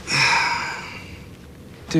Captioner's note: groaning